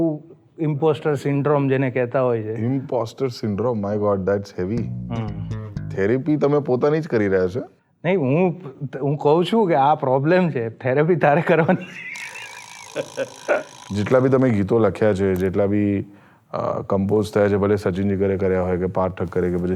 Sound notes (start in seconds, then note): 11.7 laughs